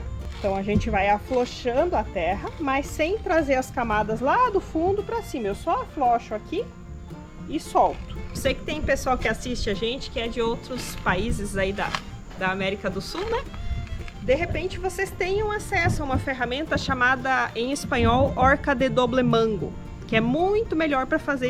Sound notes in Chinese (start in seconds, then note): 19.1 西班牙语